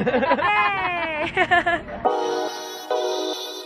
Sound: laughs; upbeat music

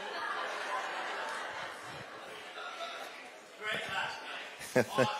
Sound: laughter

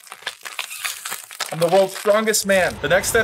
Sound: bottle squeaking

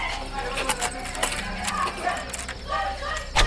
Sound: desperate voices

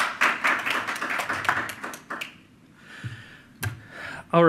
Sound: audience applauds

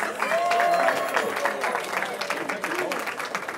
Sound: cheering

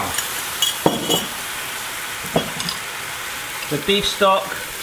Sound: furious sizzling

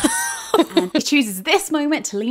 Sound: laughing

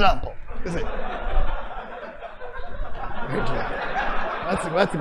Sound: laughter

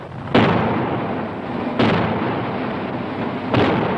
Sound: canons booming

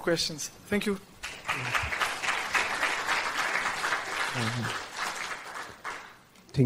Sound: applause

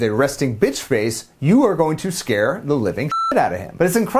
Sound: beep

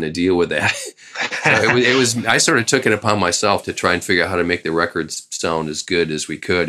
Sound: laughter

